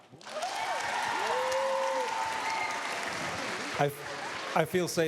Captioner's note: cheers, applause